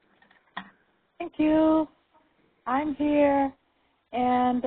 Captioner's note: voiceover